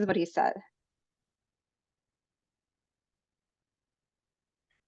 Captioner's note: no audible dialogue